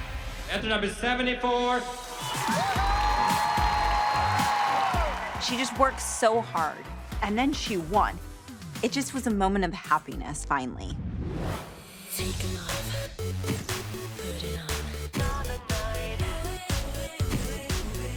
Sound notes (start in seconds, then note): 1.7 bright music playing; 2.0 cheering